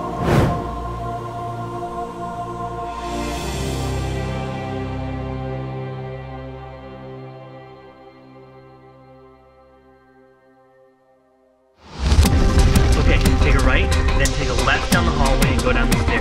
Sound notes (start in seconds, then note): 0.0 whooshing; 11.8 whooshing; 11.9 dramatic music